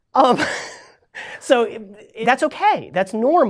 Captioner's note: laughs